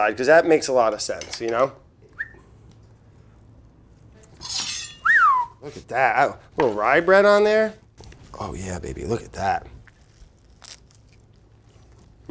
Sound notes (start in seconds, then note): 2.0 whistles; 4.9 whistles